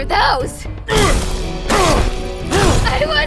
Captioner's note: Beefton grunts